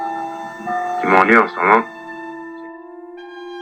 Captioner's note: mournful and reflective music; voiceover of man speaking in french